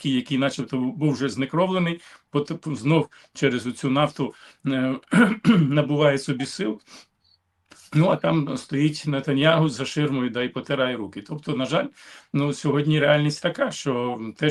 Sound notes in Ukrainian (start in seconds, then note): 5.0 прочищення горла; 6.8 сопіння